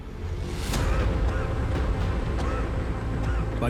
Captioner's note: coughing